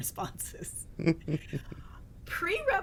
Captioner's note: chuckles